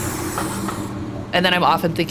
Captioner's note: train whooshing and swishing; brakes clicking